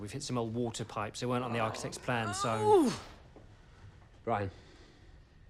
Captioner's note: groaning